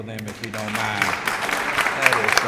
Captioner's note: applause